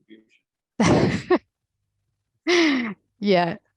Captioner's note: laughing